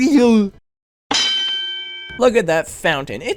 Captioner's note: boxing match ding once again